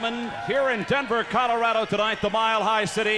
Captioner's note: crowd cheering